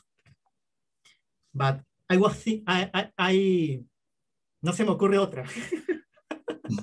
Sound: speaking spanish

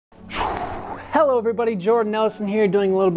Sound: exhales

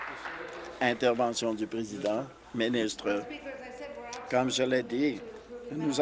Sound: applause

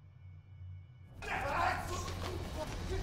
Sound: grunting

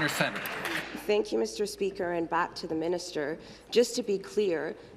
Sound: applause

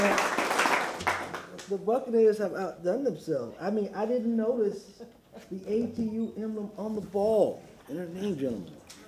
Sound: applause

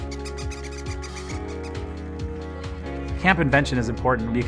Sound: squeaking

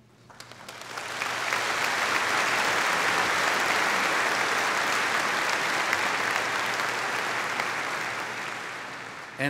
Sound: audience applauding

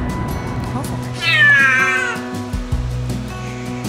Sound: loud meow

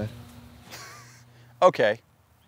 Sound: laughs

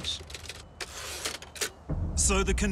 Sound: typewriter keys click

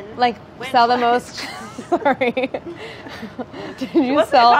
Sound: laughing

